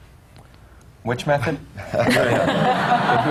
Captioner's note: laughter